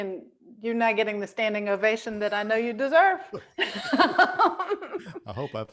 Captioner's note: laughs